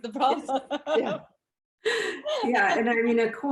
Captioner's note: laughs